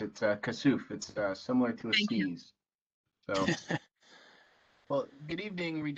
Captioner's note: laughter